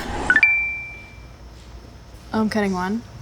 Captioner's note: chime